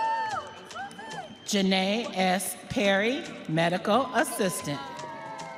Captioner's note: audience cheering